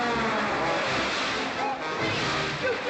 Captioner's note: splash